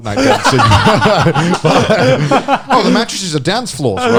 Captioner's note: all laughing